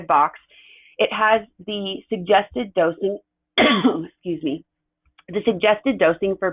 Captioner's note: coughs